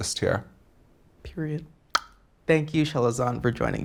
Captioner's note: clicks tongue